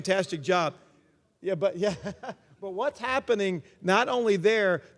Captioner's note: laugh